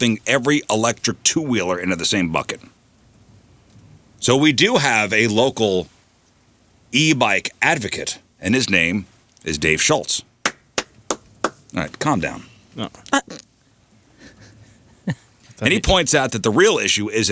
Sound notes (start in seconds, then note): 10.4 clapping; 12.5 laughing